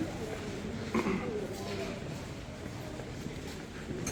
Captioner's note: sound of clearing throat